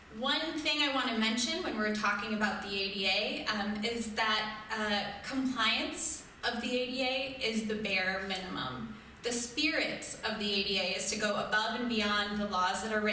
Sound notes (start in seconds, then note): none